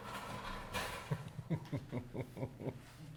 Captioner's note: laughs